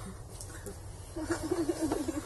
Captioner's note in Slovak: Smiech